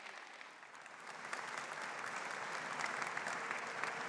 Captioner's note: audience applauding